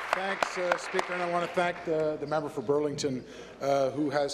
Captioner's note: applause